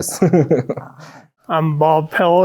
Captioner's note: laughing